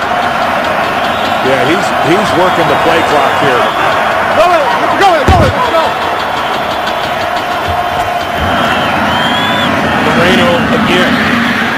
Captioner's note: crowd noise